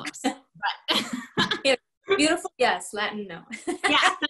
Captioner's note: laughter